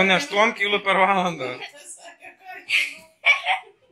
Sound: laughs

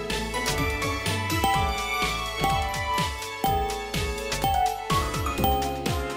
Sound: countdown chime noise

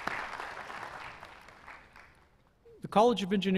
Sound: applause

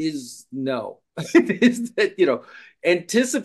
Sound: laughing

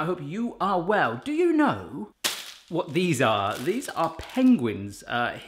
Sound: smacks

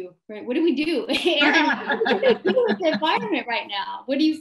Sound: laughs

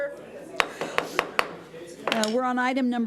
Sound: gavel bangs

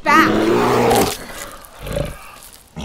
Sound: bear growls as it feeds

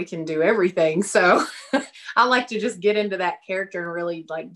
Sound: laughs

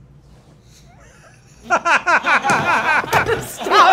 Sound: laughing

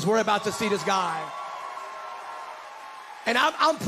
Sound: congregants cheering

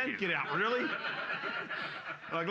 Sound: loudly laughing

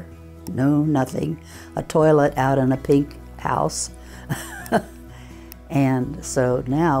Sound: laughs

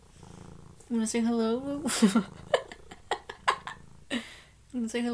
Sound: laughing

